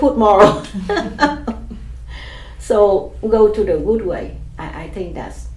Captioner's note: laughs